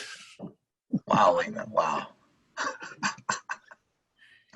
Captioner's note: laughs